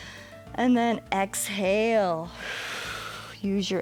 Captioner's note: exhales